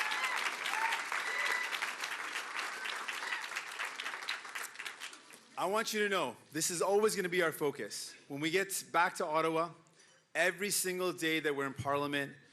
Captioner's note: cheering and Applause